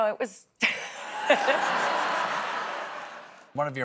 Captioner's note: laughter